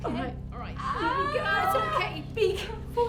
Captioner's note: Belle shouting